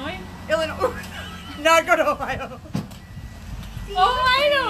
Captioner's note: laughs